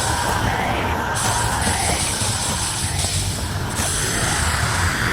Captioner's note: metal clashing; screaming & thunder continues